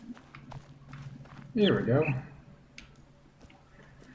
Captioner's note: bird chirps ˥ ˩